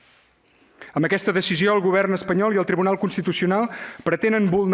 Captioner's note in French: espagnol